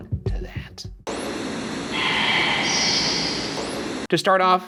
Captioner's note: television static; someone whispering